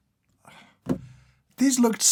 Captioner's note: sighs